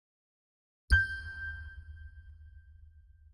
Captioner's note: chime